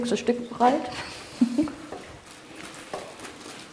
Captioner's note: laughs quietly